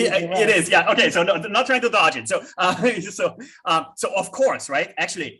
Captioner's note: chuckles